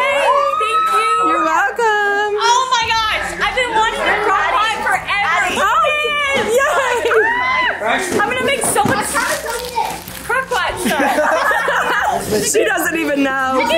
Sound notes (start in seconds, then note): 10.8 chuckles; 10.8 laughs